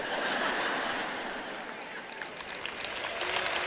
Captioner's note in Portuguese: público rindo